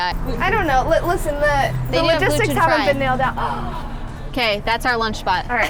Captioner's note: overlapping chatter